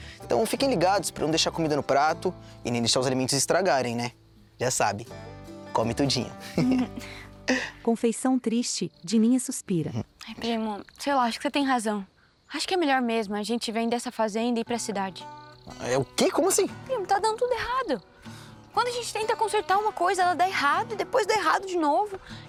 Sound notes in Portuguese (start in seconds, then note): 6.4 Risos; 8.1 Dininha suspira